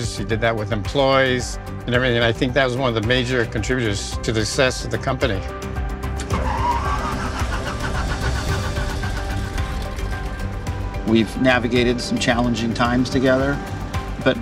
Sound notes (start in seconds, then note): 6.2 engine sputtering; 8.8 upbeat music